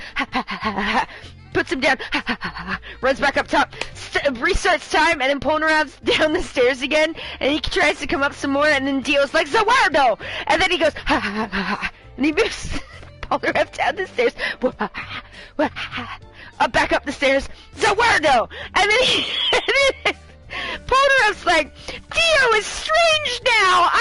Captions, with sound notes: (panting) puts him down, (panting) he runs back up top, and restarts time, and Polnareff down the stairs again. And he tries to come up some more and then Dio's like, "Za warudo," and then he goes (panting). And he moves (laughs) Polnareff down the stairs, up back up the stairs, "Za warudo," and then (laughs) Polnareff's like, "Dio is strange now.